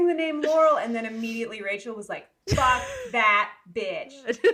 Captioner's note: laughing